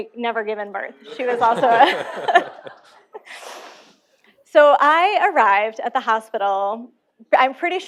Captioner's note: laughter